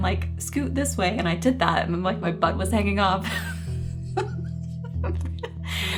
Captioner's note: chuckling